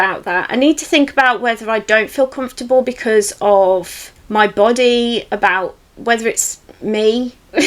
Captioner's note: laughs